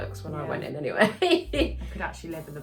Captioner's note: laughs